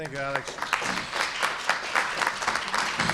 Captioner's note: applause